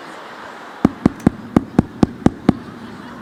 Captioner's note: tapping on microphone